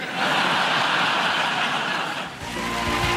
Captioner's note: audience laughter